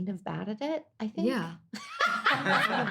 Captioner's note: laughing